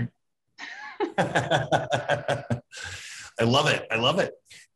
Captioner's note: laughing